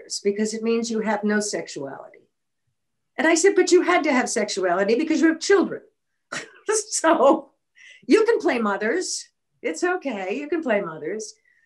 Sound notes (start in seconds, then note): 6.4 laughing